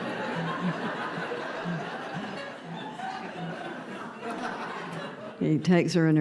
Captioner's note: raucous laughter